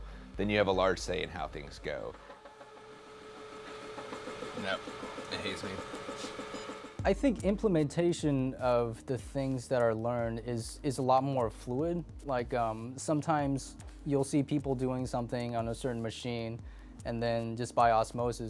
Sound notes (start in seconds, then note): 3.7 machine sound